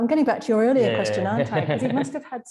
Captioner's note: laughing